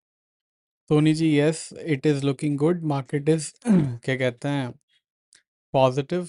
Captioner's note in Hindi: गला साफ़ करने की आवाज़